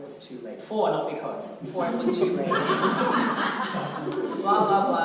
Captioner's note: audience laughter